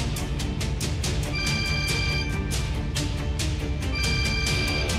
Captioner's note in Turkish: Telefon çalıyor